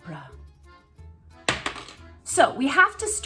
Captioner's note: monocle clatters